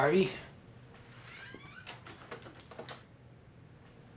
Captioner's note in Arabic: صرير الباب مغلق